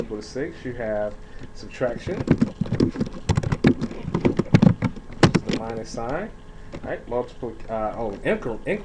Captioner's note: typing sounds